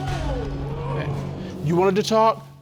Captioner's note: audience exclaiming